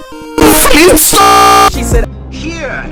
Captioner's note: stutter loop